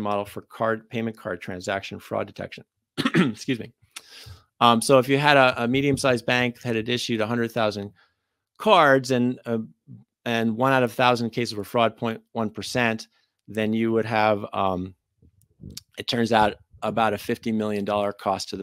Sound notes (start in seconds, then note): 3.0 coughs